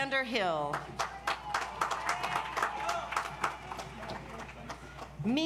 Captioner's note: audience applauds